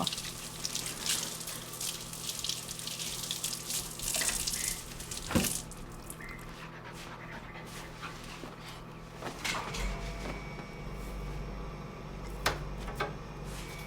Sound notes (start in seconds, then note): 0.0 water running; 6.5 dog breathing in background